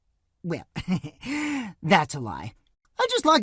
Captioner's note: chuckle